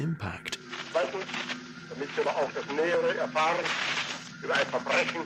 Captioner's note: radio, Hitler in German